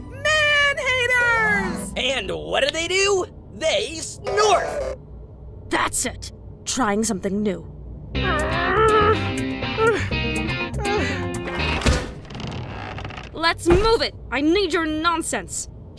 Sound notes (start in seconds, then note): 8.2 straining; 10.8 gasping for air